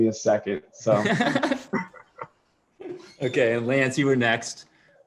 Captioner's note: laughter